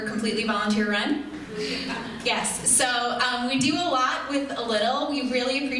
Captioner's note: audience chuckles